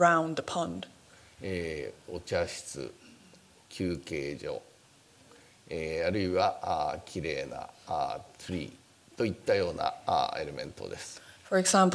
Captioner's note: speaking japanese